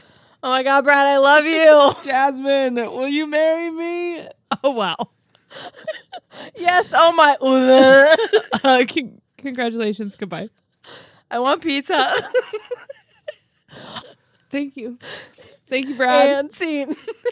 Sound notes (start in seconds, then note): 7.8 imitates vomiting; 12.1 laugh